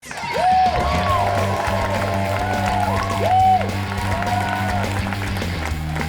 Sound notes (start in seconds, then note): 0.0 audience cheers and applauds; 0.7 upbeat punk rock